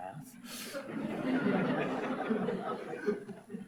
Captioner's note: audience laughs